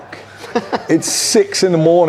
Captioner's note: laughs